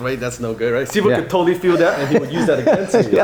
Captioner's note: laughing